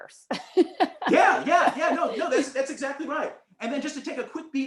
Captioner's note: laughter